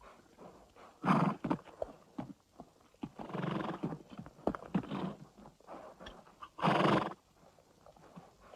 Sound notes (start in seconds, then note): 0.9 horse snorting